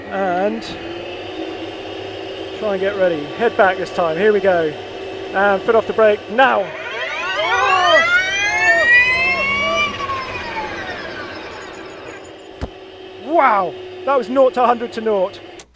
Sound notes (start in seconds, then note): 1.1 engine revving; 7.0 engine revving; 7.9 shouting